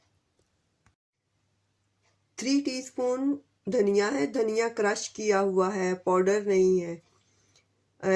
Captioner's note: crushed